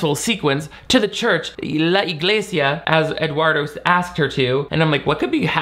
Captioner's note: speaks Spanish